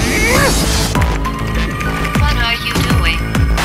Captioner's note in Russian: скоростной набор текста